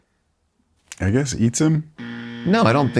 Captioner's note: buzzing noise